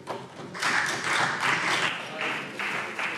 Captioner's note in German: Beifall CDU